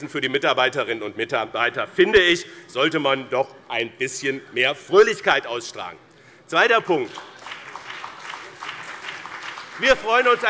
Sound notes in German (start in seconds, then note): 7.0 Beifall BÜNDNIS 90/DIE GRÜNEN und CDU